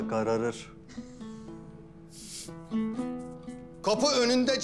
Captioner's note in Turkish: Gülüşmeler